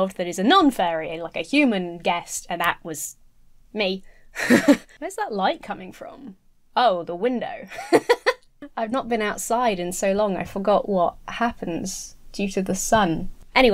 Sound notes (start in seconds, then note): 4.4 giggling; 7.7 laughing